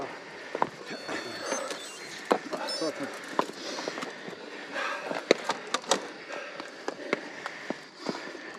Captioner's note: everyone breathing